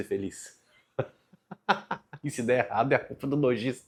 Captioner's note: laughs